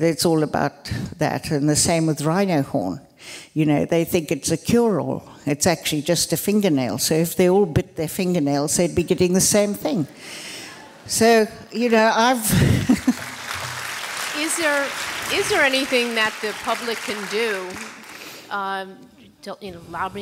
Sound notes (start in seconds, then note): 10.7 laughter; 12.5 applause